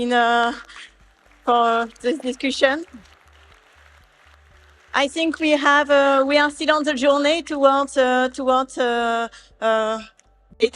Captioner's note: applauding